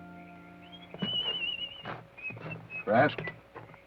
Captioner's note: whistles melodically